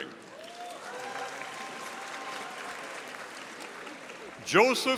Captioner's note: audience applauding